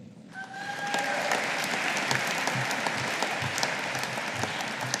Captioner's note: audience applauding